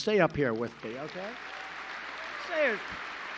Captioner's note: applause